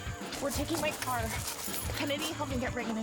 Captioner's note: none